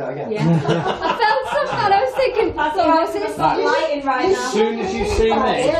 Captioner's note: all chattering; all laughing